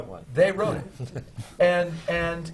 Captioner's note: laughs